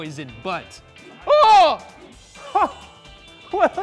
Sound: yelling; exclaiming

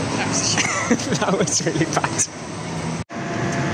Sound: laughs

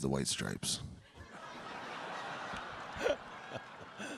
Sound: audience laughing; laughing

